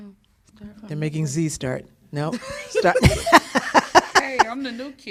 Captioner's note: laughter